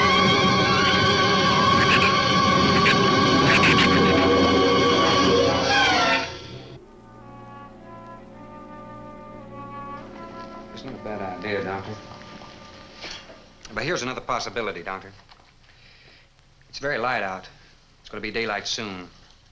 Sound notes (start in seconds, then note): 0.0 shrew snarls; 0.0 thunder claps; 1.7 shrew chatters; 6.8 bleak orchestral music